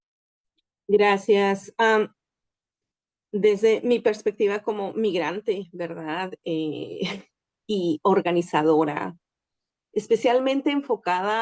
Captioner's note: speaking in Spanish